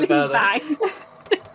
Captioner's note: laughs; tape recorder clicks off